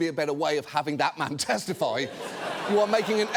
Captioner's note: audience laughs